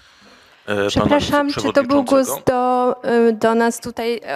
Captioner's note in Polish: inny głos z sali